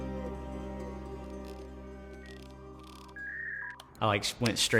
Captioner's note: dial-up internet sounds